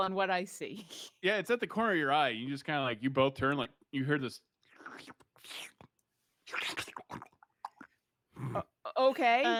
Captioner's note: slurpy sounds